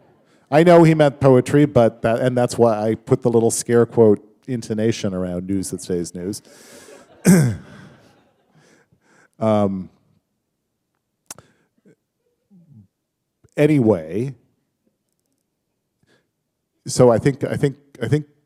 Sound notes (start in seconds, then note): 6.4 laughter